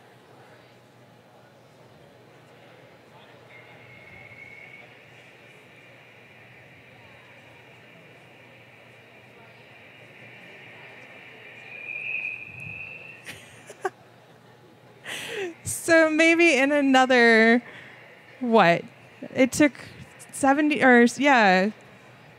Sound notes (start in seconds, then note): 3.2 whistling sounds which are louder when the vertical line passes the bright spots